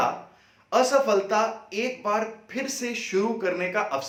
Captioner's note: Hindi